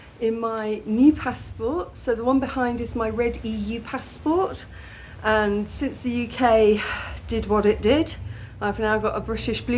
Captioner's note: sigh